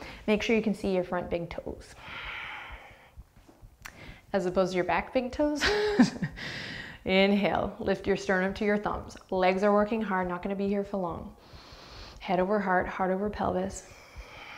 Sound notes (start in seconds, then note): 6.4 laughs